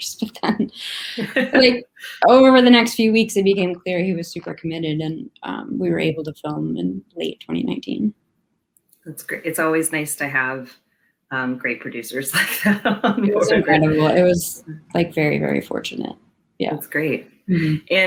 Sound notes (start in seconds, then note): 12.6 laughs